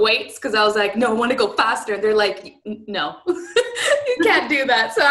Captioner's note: laughter